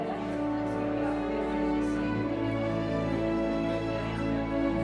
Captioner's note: light chatter